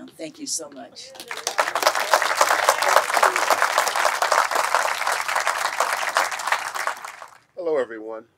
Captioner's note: clapping